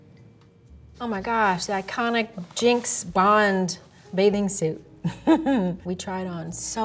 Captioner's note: chuckles